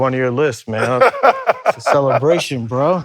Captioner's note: laughs